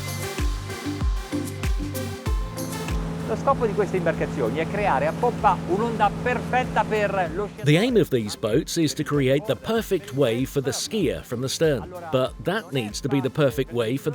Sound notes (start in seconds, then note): 0.1 dance music; 3.4 speaking foreign language